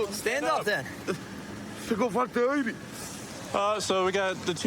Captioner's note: speaking spanish